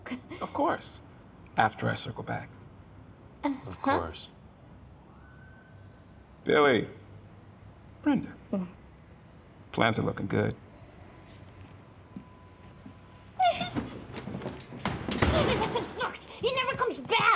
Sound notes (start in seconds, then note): 13.3 whipers, crys; 13.4 door closes